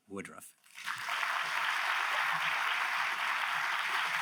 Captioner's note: audience applauds